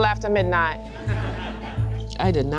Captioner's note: class laughing